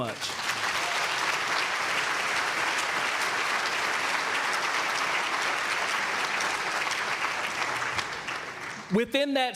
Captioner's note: applause